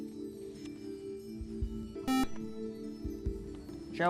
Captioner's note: buzzer